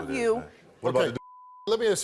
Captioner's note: beep